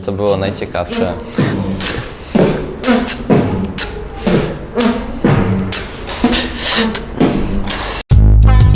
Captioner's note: beatbox